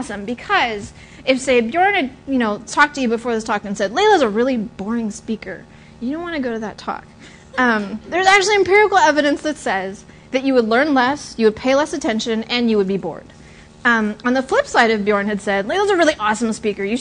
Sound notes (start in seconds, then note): 7.3 laughter